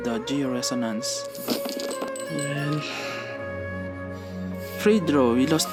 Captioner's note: sighing like Wanderer